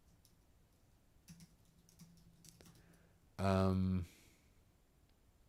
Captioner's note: typing